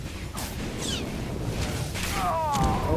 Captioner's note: grunting